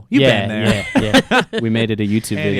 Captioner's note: laughs